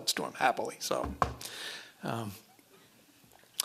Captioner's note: knocking